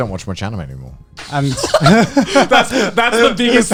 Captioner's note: both laughing